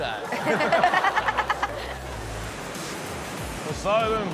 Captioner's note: laughs